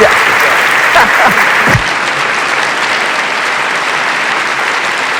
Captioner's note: audience cheering